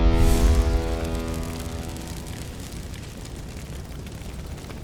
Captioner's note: fire Crackling